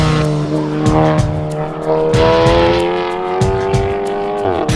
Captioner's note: car engine rumbling